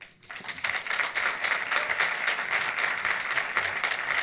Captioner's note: audience applauds